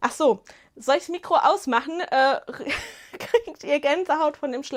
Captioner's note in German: Gelächter